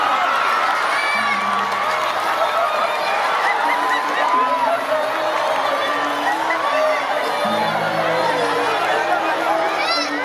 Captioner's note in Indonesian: Tepuk tangan